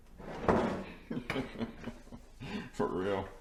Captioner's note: laughing